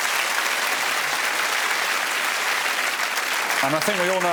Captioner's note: applause